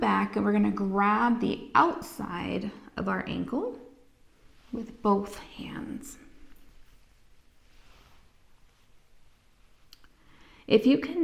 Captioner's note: inhaling